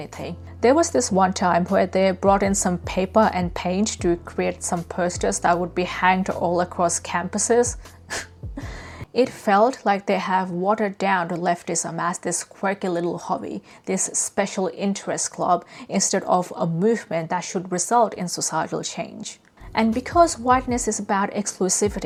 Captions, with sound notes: There was this one time where they brought in some paper and paint to create some posters that would be hanged all across campuses. (laughs) It felt like they have watered down leftism as this quirky little hobby, this special interest club, instead of a movement that should result in societal change. And because whiteness is about exclusivity,